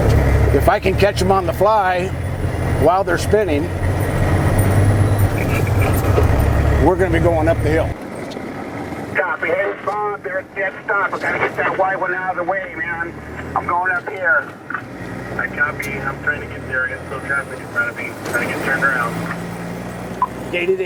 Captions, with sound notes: if I can catch them on the fly while they're spinning... we're gonna be going up the hill. (CB radio) "Copy." "We've got a dead stop. We've got to get that white one out of the way man. I'm going up here" (CB radio respondent) "I copy, I'm trying to get there. I've got to get through traffic. Trying to get turned around."